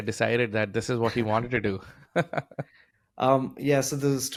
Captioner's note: laughs